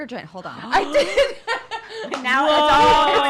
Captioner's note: laughs